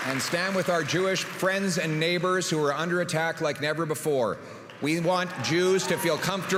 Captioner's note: applause